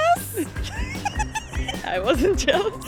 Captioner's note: laugh